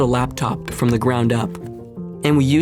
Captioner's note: knocks